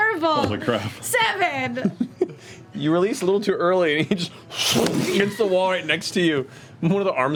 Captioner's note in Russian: смеётся; звук сильного удара